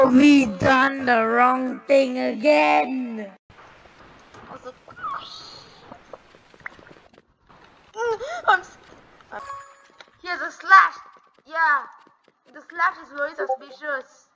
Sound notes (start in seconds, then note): 9.4 sound of buying things